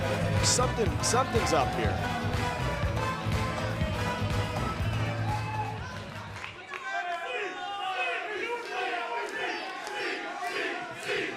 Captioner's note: crowd cheering